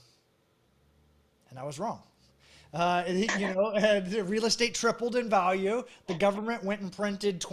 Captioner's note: laughs